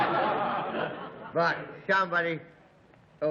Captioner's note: laughter